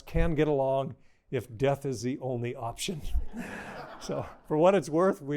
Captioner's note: laughter